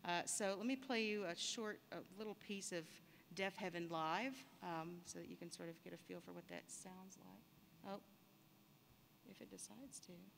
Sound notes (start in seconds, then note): none